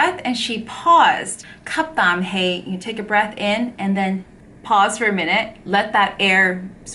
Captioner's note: Cantonese